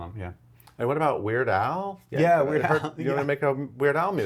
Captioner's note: laughs